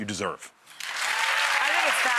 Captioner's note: audience clapping and cheering